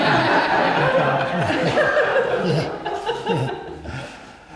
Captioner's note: audience laughs